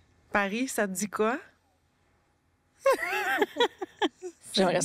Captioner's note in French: rires